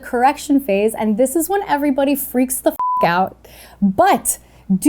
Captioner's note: beep